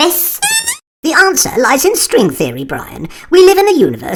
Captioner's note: pong